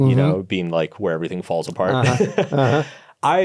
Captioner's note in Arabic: يضحك